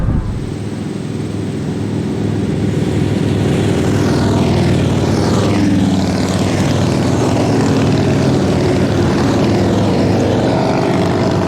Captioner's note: motorcycles rumbling